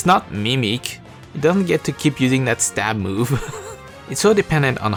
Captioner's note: chuckle